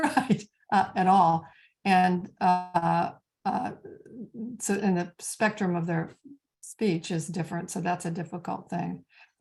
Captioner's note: chuckles